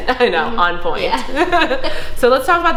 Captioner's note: laughter